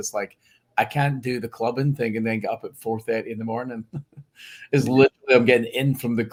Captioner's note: laughs